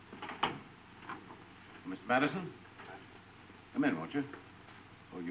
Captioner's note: door unlatching